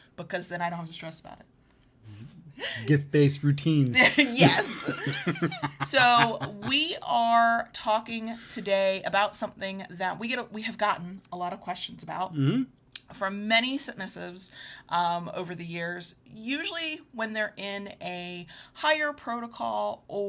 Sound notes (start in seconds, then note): 3.8 laughs